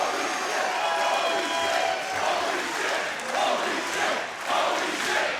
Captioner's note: crowd chants "Holy shit"